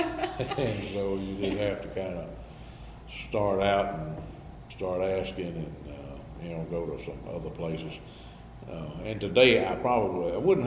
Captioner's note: BOTH laugh